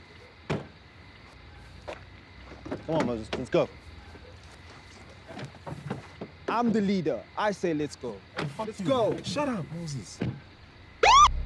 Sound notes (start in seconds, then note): 0.6 car boot closes; 3.3 car door opens